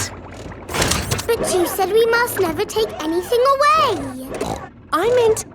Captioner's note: snorts